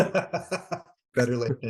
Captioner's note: laughing